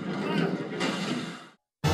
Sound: liferaft inflating

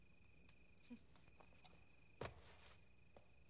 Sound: chuckling

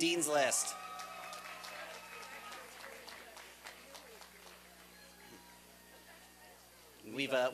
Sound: applause and cheering

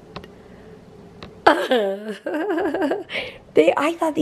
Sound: chuckling

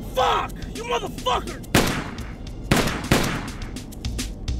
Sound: gun fires

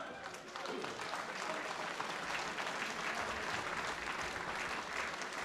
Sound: applause

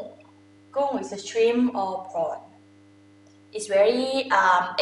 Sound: talking in foreign language

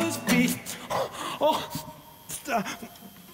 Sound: gasps

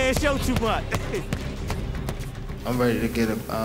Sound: laughs

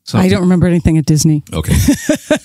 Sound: laughs

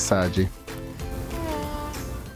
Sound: soft Baby Sigh

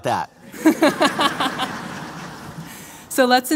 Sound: laughter

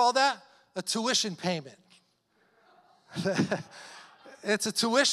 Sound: laughing

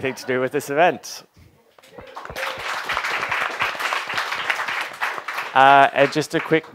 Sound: applause

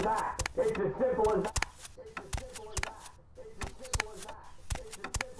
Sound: footsteps

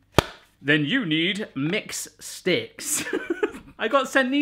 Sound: chuckling

